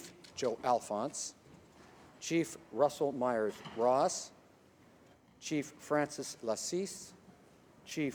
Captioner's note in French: voix de l'interprte